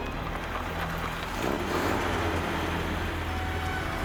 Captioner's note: jeep rumbling